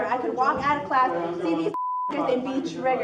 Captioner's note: beep